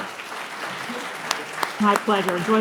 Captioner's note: participants applauding